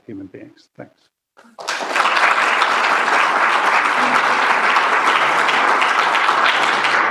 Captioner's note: applause